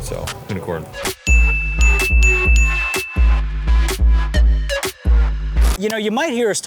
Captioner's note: hip hop music continues; bell pinging